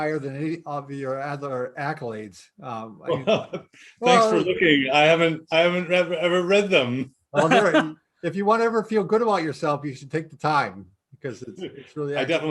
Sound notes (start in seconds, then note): 3.1 laughing; 7.3 laughing